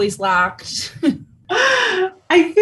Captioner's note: Karen laughs